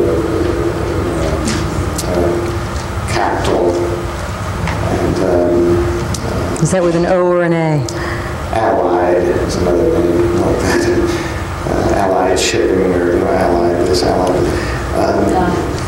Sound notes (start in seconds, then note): 10.5 laughs